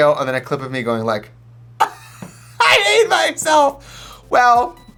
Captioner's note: laughing